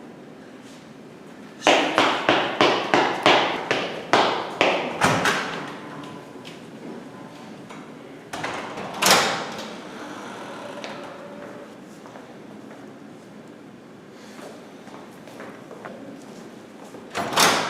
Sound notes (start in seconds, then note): 1.7 footsteps